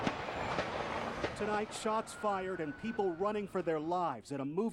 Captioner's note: gun shots